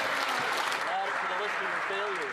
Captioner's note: some Applause